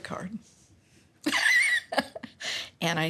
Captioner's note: laughs